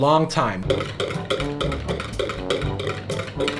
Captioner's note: whisk rattles in bowl; whimsical music